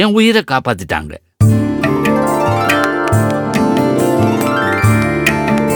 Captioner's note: Bommi claps